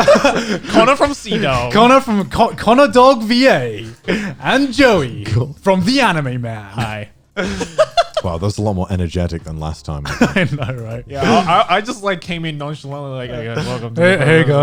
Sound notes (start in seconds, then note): 0.0 guys laughing; 7.4 laughing